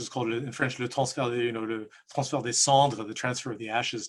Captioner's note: speaking in French